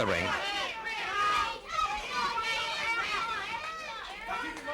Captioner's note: crowd yelling